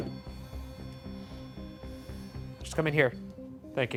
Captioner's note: REM pod beeping